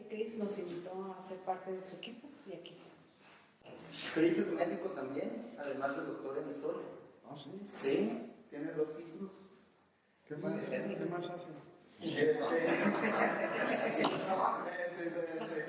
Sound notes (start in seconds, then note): 12.4 laughter